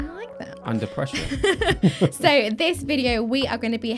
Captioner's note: laughs